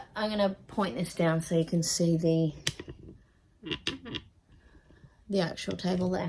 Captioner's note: tripod clicks, then squeaks